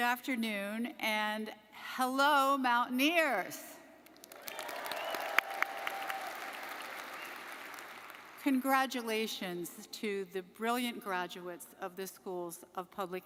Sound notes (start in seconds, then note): 4.2 audience applauding; 4.4 audience cheering; 4.5 audience member whistles; 7.0 audience member whistles